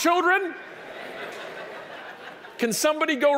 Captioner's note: audience laughing